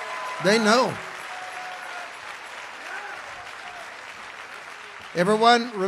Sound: congregation cheers

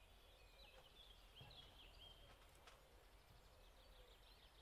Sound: birds chirping

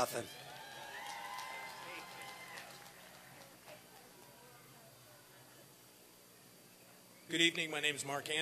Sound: applause and cheering

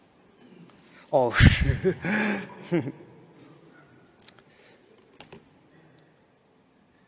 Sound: laughing

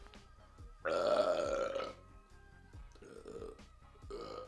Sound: burping

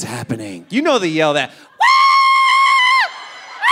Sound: screaming

